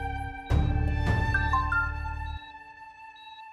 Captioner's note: phone beeps